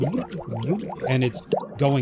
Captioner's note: bubbling water